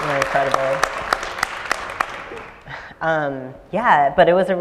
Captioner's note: applause